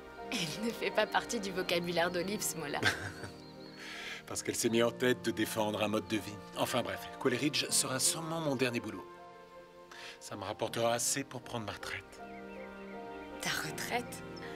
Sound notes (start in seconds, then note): 2.7 chuckles